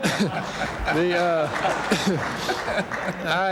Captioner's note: laughter